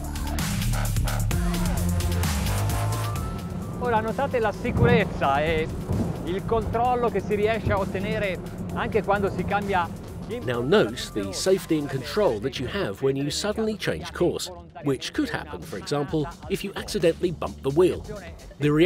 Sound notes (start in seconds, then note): 0.2 aggressive, warbling electronic music; 4.6 speaking in Italian